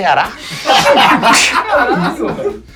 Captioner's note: risos